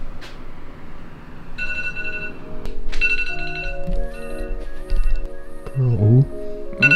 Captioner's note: alarm goes off